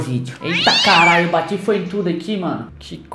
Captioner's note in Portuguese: gato gritando